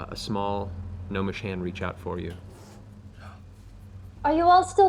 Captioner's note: none